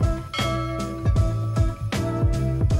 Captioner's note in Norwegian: pling